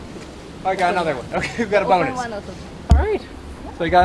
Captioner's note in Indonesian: tertawa